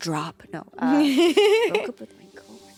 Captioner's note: laughs